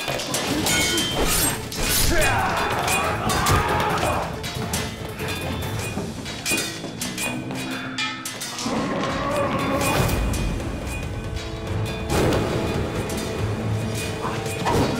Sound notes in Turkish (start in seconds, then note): 1.9 Bağırma sesi; 6.2 Kılıç sesleri; 9.1 Bağırma sesi